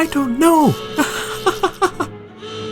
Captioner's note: laughs